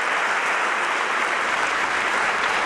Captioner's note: applause